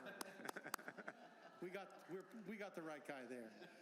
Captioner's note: laughter; applause